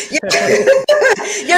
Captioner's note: laughs